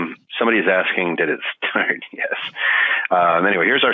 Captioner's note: laughing